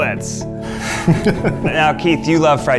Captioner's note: laughing